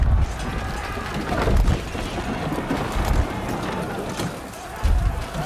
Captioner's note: weapons clanking; fire crackling